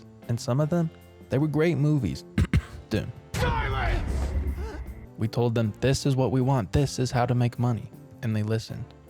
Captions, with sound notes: And some of them, they were great movies. (cough) (cough) Dune. We told them "This is what we want, this is how to make money." And they listened.